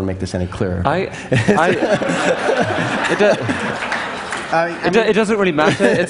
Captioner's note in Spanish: Risas